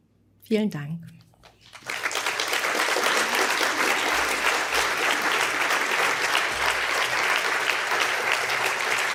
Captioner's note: applause